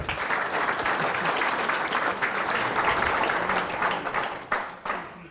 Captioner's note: applause